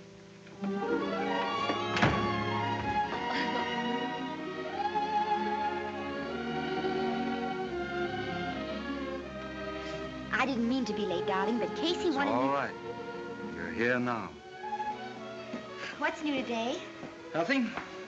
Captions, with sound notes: [instrumental music] [chuckles] I didn't mean to be late, darling, but Casey wanted me-- It's alright. You're here now. - What's new today? - Nothing.